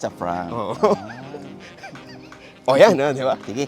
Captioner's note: laughs